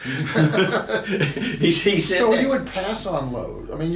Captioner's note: laughing